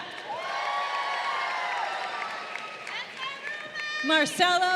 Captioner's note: crowd cheering